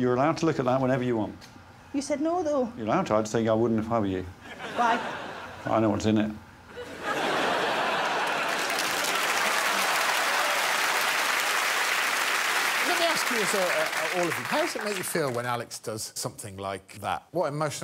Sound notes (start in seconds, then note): 7.6 cheers and applause